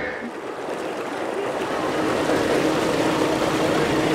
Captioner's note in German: Wasserplätschern und Motorgeräusche